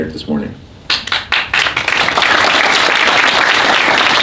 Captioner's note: applause